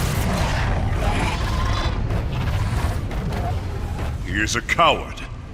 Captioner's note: chittering